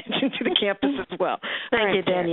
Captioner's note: laughter